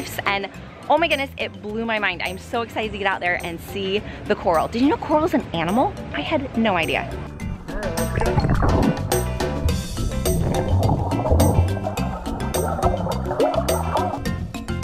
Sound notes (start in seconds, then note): 6.0 lively music; 7.3 water bubbling